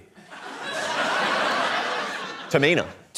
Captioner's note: laughter